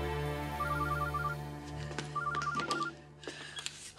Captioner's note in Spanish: suena el celular